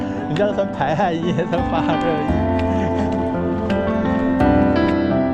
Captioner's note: laughs